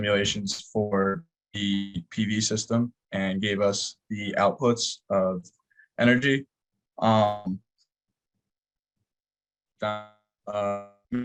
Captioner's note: audio distortion